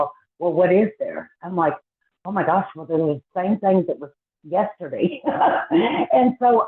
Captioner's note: laughs